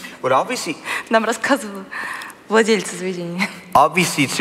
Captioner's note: foreign Language